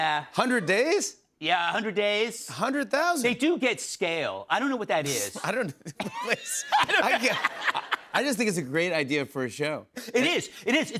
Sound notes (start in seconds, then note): 5.8 laughter